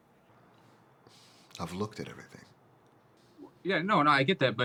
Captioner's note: exhales